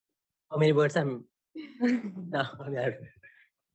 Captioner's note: laughter